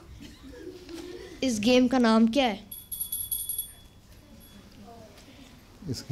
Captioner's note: bell rings